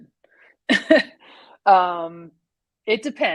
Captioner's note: laughs